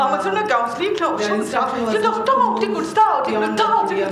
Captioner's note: non-english speech